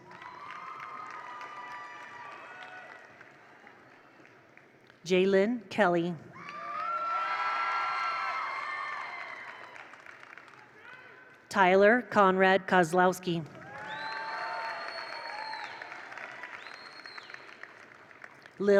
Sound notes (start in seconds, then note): 0.0 attendees cheer; 0.0 attendees applaud; 6.4 attendees cheer loudly; 6.4 attendees applaud; 13.6 attendees cheer; 13.6 attendees applaud